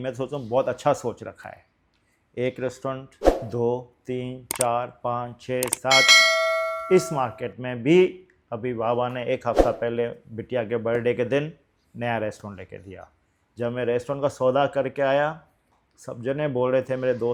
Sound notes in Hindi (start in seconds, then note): 5.6 घंटी की आवाज़